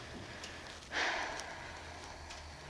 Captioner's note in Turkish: Nefes sesi